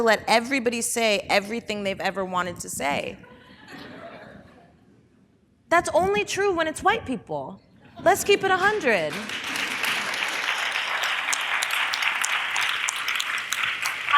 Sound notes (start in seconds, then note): 8.5 audience applause